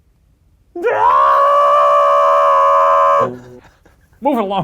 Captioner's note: screams